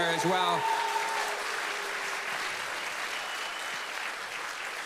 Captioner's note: applause